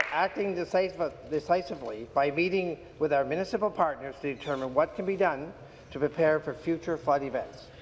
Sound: applause

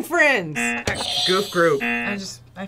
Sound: buzzer rings

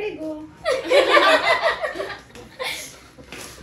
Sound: laughing

